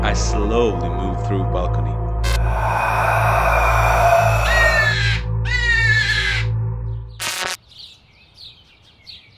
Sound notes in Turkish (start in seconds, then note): 4.4 aşırı korkunçlu sesler